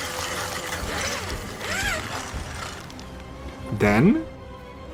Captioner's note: machinery grinding